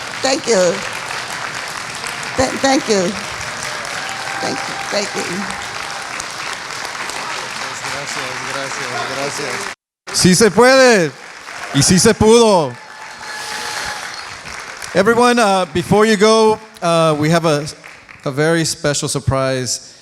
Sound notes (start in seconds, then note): 0.0 speaking foreign language; 1.4 applauding; 3.9 applauding; 10.0 speaking in foreign language